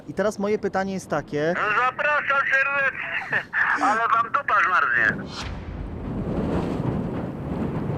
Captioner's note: laughing